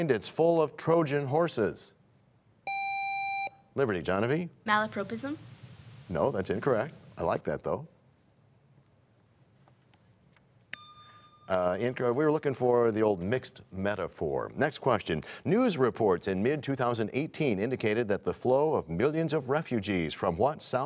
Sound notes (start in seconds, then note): 10.7 bell rings, time expires